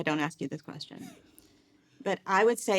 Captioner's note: chuckling